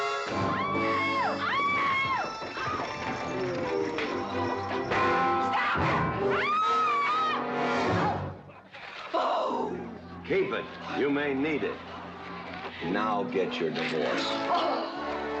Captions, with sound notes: (Katherine screaming & carrying on) (carriage rattling) - Stop it! (screaming) (growling loudly) - Keep it...you may need it! Now get your divorce.